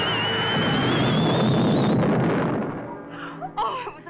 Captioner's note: exploding